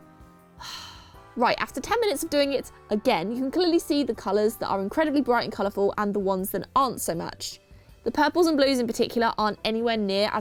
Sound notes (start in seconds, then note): 0.6 sighs